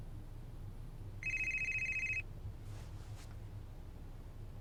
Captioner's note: phone rings